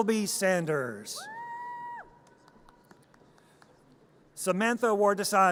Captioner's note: audience cheers